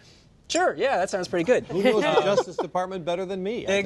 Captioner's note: laughter